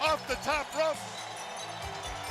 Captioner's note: crowd cheering